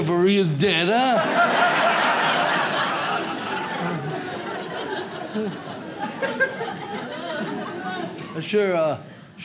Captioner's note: audience laughs